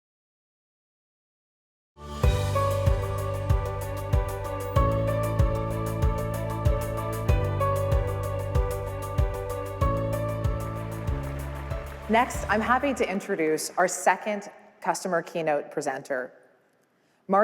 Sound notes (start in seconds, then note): 2.2 introductory music; 11.2 applause